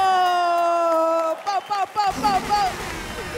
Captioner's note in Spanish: Aplausos